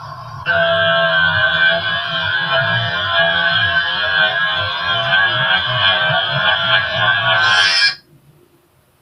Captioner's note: awhhhhhh!!!!